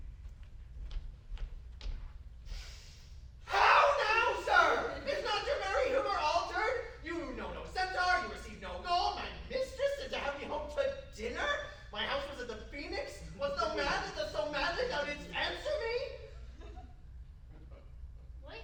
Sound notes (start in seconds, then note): 2.4 inhale